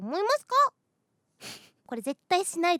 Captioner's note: snickers